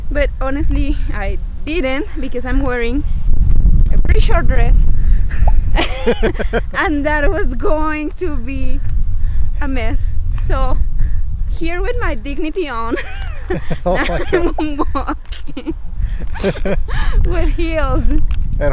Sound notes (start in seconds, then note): 5.2 both laughs; 12.9 laughs